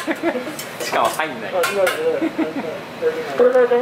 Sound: laughs

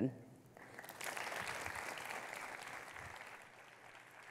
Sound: audience clapping

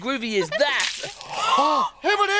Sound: drink spills; gasps

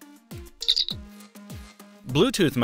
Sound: ComBadge chirps

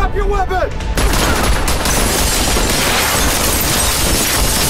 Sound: gunfire

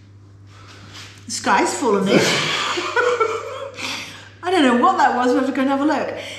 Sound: laughter

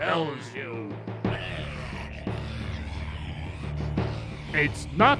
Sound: demonic struggling

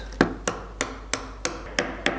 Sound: hammering

